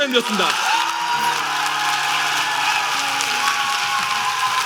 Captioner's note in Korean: 박수 및 환호